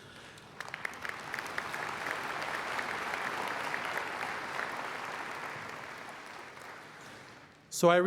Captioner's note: applause